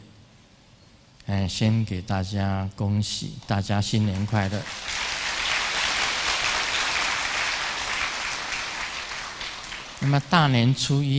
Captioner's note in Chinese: 眾鼓掌